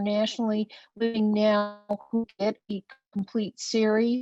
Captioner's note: web-call distortion